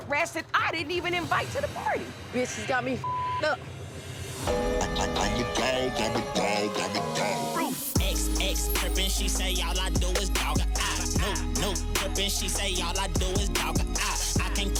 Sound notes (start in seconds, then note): 3.0 beep; 4.6 upbeat music